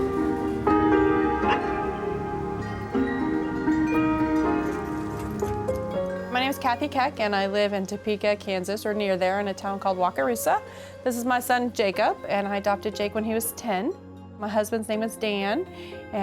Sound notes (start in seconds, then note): 1.3 dog barking; 2.8 bells chiming